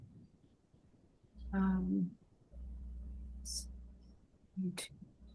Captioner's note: mumbling